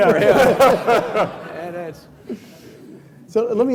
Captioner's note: laughing